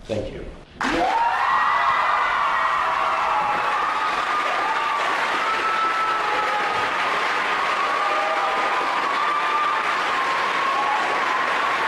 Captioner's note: applause